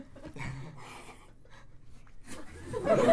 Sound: laughs nervously

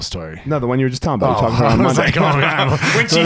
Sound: laughing

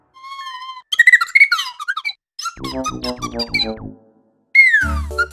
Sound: chirps

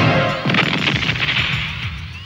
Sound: explodes

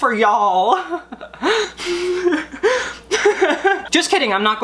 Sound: laughing

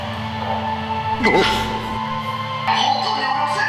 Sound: gasp

